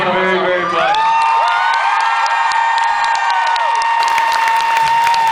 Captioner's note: cheers, screams, applauds